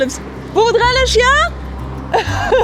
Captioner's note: speaks French; laughs